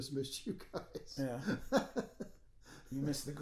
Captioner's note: laughing